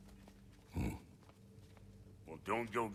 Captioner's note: grunt